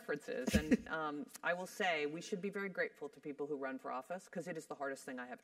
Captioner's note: laugh